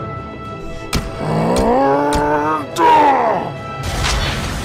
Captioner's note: Knuckles grunts